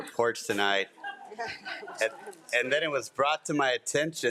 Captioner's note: group laughs